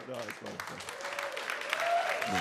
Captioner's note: audience applauds; audience cheers